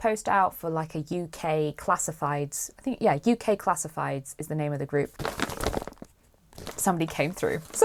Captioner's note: rustling